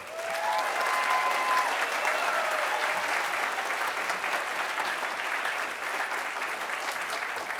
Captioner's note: applause